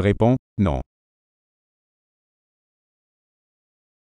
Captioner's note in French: silence